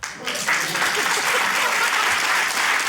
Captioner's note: applause